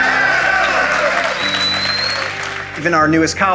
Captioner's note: applause